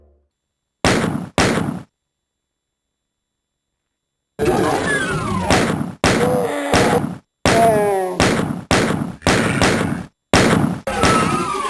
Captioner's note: DOOM sound effects playing correctly